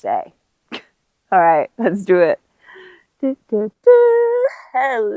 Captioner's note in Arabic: يدندن